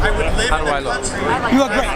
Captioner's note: quietly